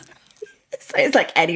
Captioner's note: laughing